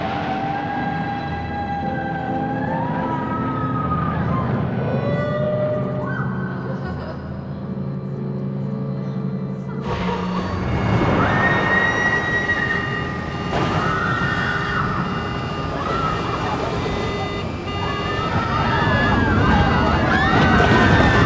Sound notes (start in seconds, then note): 0.2 girls whooping; 10.5 girls screaming; 11.5 warning alarm blaring